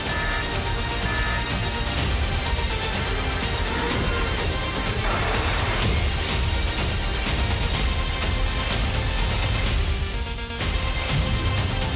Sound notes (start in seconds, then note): 0.0 alarm sounding; 5.9 roaring